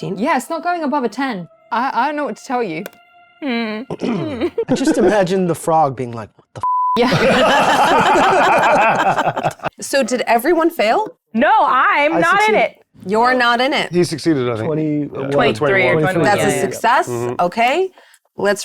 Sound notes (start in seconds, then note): 6.6 beep; 7.0 group laughing